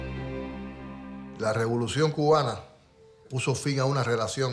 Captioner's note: speaking in Spanish